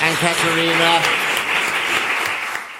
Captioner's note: applause